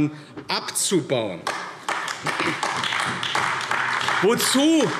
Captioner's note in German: Beifall AfD